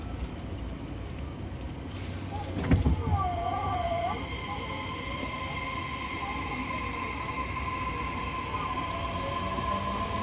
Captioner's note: acceleration sound